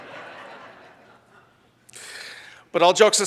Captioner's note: audience laughs